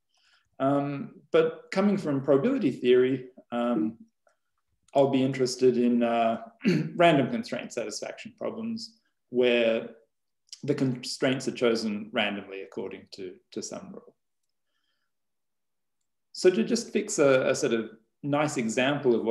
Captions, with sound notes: But coming from probability theory I'll be interested in (clears throat) random constraint satisfaction problems. Where the constraints are chosen randomly according to do some rule. So to just fix a set of nice example of